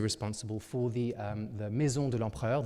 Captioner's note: speaking in French